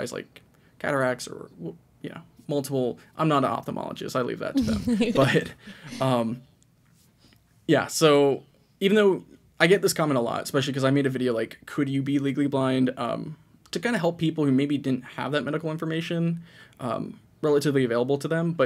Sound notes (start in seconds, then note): 4.5 laughs